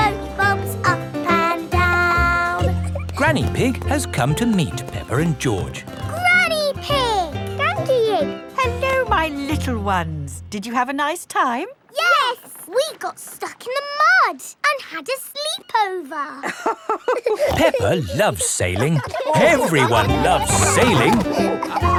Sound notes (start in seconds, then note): 16.4 both laughing